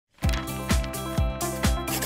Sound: page Turn SFX; pencil Writing SFX

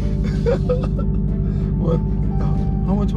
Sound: laughing

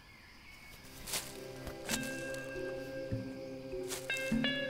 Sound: rustling; chilled music

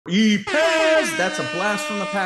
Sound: airhorns

